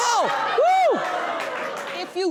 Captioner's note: audience laughs